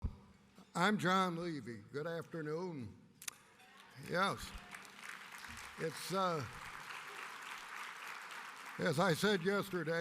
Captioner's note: applause